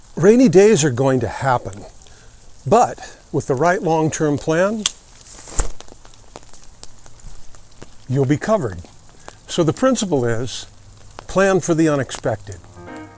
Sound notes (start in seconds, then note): 4.8 rain pattering